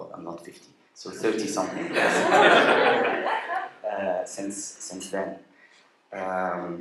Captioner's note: laughter